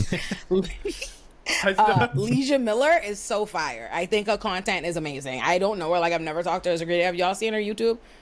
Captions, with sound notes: [LAUGHTER] Leija Miller is so fire. I think her content is amazing. I don't know her. I've never talked to her as a creator. Have you all seen her YouTube?